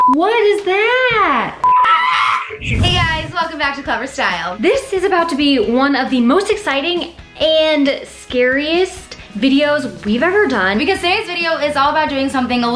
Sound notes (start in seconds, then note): 1.7 screaming